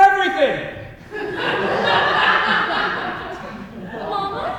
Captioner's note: audience laughs